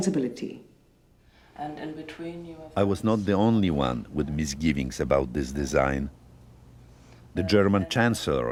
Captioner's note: voice-over